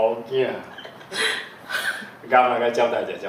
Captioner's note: MONICA laughs